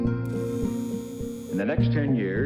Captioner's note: machine buzzes